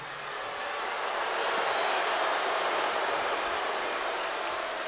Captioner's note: crowd boos